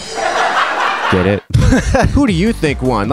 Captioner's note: laughs